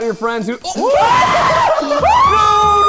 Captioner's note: screaming